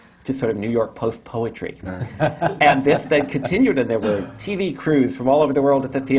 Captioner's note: laughs